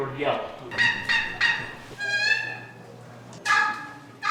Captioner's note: turkey yelp sounds